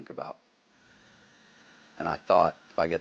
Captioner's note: rotary blades whir